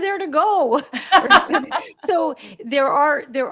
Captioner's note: laughter